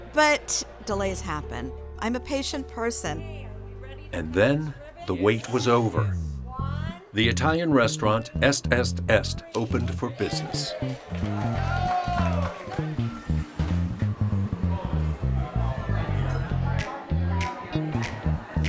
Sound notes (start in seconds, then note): 11.4 all cheering; 12.6 funky upbeat music; 15.8 people chatting